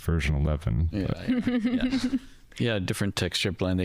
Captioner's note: all Laughing